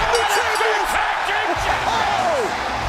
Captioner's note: bell ringing